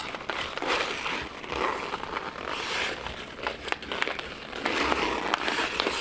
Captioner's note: ice skates grinding